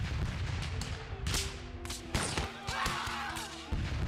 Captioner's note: gun fire and shouts